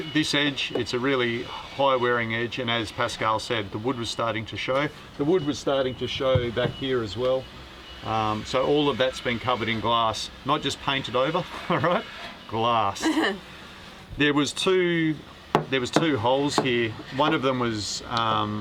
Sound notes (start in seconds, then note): 13.0 laughs